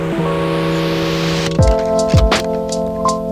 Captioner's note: bag crinkle